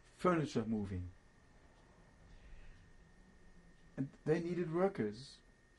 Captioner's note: pauses for 3 seconds